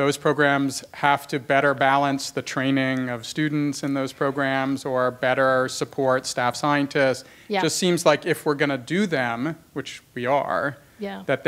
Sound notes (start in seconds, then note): none